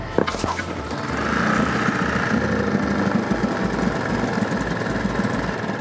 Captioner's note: boat motor rumbling